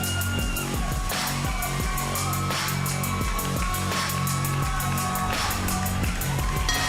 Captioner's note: crowd cheering